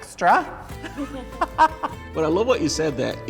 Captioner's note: laughter